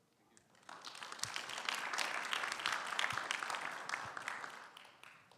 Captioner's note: audience applauding